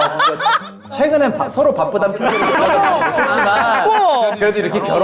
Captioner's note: agreeing